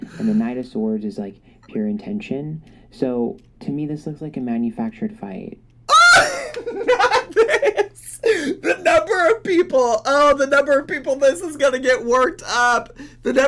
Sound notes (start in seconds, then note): 5.9 laughing